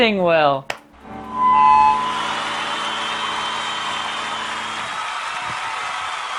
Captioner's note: microphone feedback and audience applause